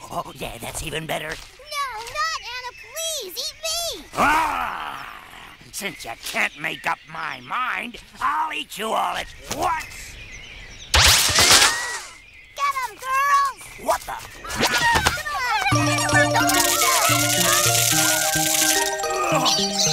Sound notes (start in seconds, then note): 4.5 growling; 15.2 yelling; 17.4 playful music; 19.7 squeaking